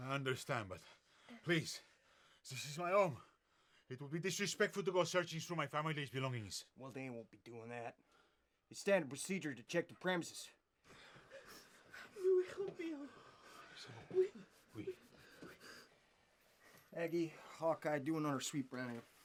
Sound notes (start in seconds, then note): 12.4 speaks French